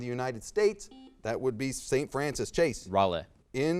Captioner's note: buzzer beeps